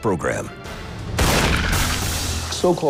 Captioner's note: gunshot